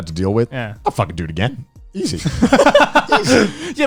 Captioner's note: laughing